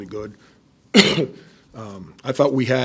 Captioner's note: coughing